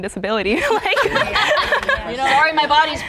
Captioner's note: laughs